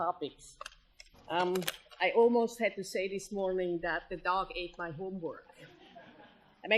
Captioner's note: laughter